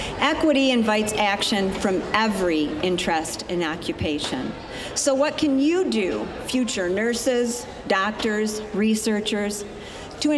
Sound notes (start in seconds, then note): none